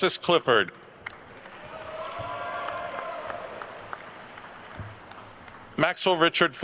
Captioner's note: attendees cheering and applauding